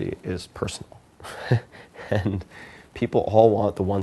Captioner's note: Tim laughs